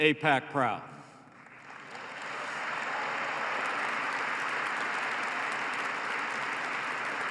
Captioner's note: applause